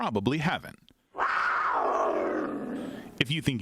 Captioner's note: feline roaring